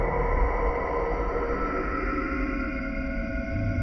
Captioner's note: none